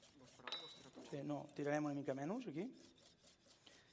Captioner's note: non-english speech